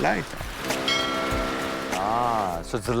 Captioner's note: bell tolling